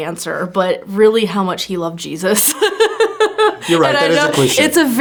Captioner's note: laughs